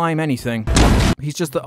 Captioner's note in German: Boom